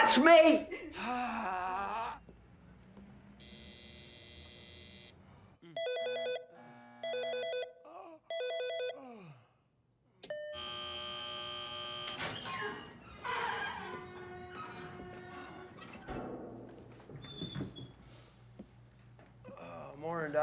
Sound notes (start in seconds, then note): 3.4 door buzzing; 4.7 phone ringing; 10.2 door buzzing